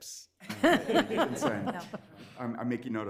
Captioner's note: everyone laughs